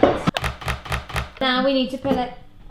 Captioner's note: chopping